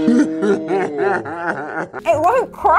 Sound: laughs

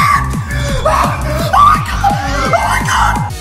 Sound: sighs all the time

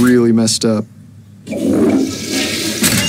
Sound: door closes; toilet flushing

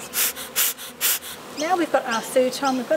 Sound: puffs

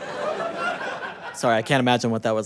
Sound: audience laughter

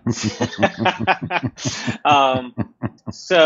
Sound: laughter

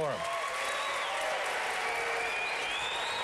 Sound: applause

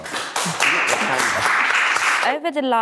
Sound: clapping

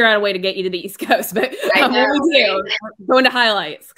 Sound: radio interference drowns out speakers

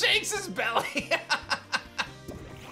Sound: laughs

